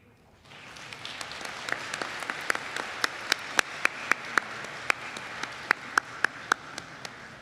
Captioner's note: applause